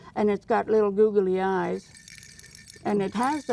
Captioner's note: rattling